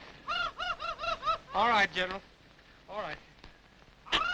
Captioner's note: Sinbad squawks